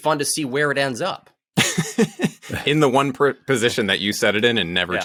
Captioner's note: laughs